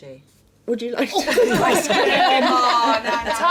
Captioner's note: laughing